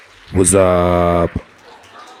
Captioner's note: applause